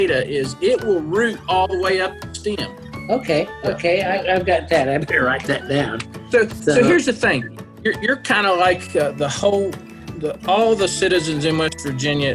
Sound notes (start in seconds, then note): 6.0 laughs